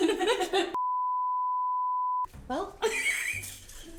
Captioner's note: group laughs; recording beeps